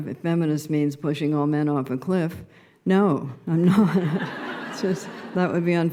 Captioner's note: laughter